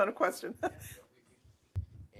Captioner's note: laughs